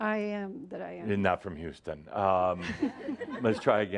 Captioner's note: more chuckles